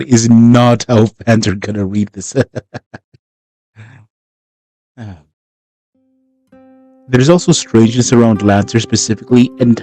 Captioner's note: laughs